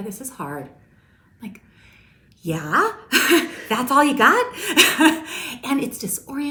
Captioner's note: laughs